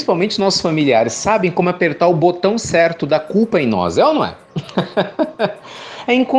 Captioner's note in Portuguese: Risos